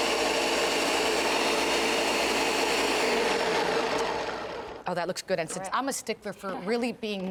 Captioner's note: blender noise